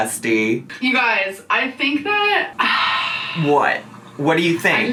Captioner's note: sighs